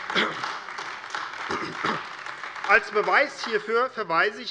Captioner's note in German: Beifall AfD